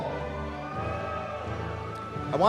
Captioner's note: cheering